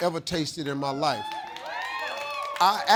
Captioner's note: audience cheering